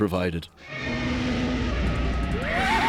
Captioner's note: creature roaring; screaming